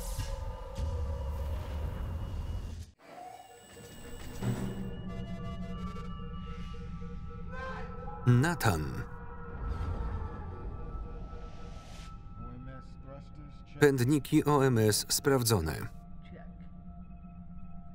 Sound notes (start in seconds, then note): 3.2 alarm sounding